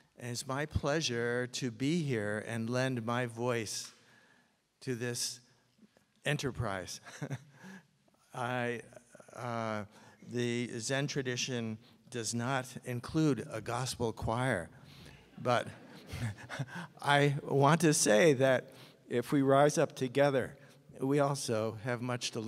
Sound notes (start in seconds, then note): 15.1 audience laughs; 15.7 chuckles